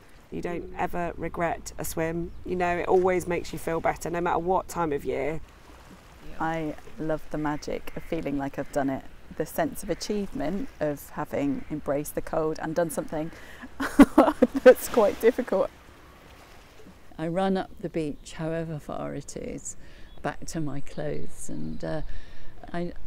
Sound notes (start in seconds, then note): 13.8 laughs